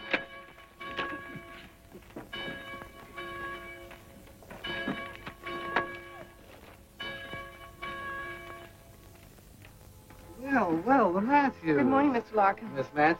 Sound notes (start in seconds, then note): 1.5 bells ringing